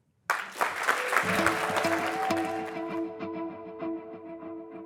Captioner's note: applause